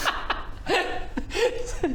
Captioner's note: sadistic laugh